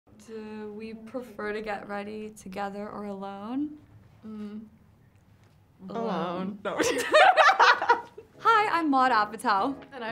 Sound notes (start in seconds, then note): 6.8 girls laughing